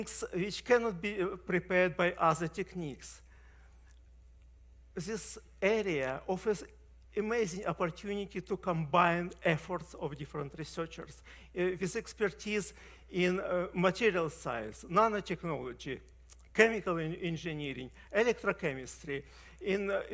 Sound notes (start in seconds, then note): none